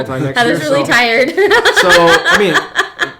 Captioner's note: laughs